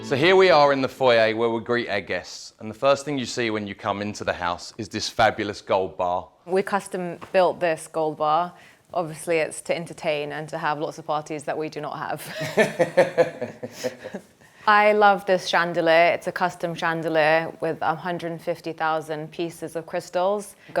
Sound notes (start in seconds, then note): 12.2 chuckles; 12.3 laughs